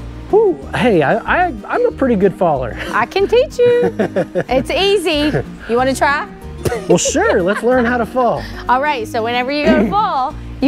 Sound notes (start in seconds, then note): 3.6 laughs; 6.3 laughs